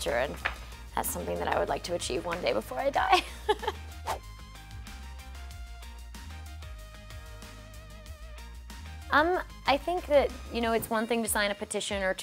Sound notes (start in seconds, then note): 3.2 laughing; 4.0 whooshing